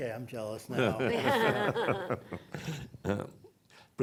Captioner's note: laughs